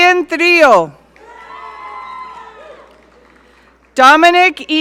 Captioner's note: audience cheering